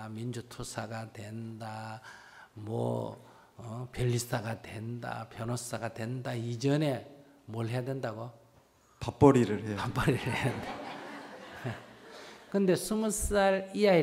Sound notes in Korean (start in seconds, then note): 10.1 웃음; 10.2 청중웃음